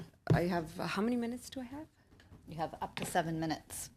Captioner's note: speaking in French